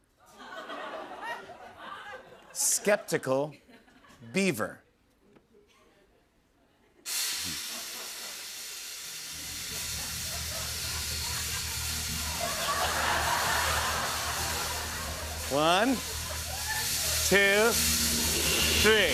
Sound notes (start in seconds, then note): 0.2 laughter; 12.0 audience laughing